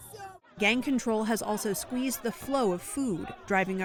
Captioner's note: voice-over